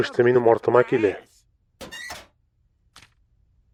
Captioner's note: creaks